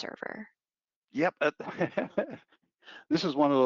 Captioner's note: laughing